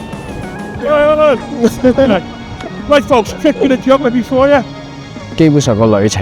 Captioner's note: Scouse / Liverpool Accent